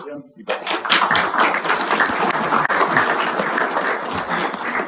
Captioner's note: audience applauding